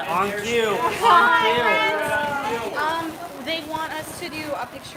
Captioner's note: Static